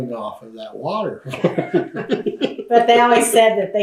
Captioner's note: laughs